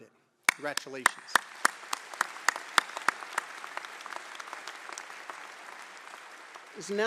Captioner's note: applause